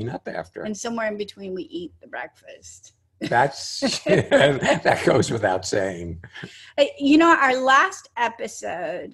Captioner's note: laughing